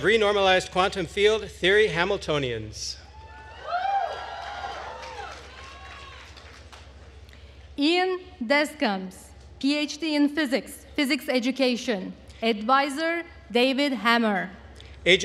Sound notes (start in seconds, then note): 3.2 attendees cheering and applauding